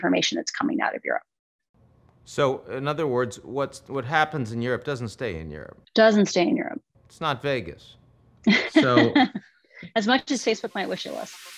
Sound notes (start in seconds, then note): 8.4 laughs